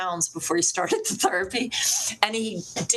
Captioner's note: laughs